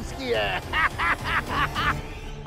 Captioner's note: laughs